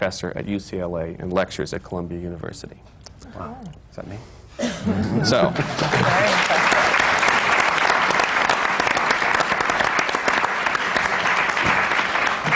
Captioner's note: applause